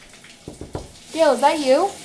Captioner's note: knocking